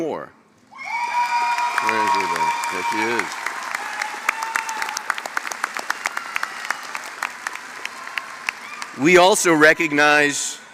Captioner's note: applause